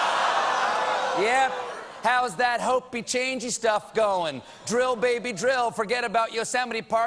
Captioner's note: audience reacts